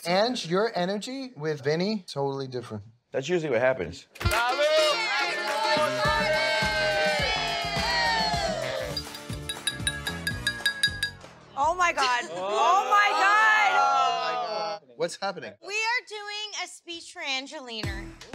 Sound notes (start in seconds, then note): 7.5 cheering; 8.9 glass clinking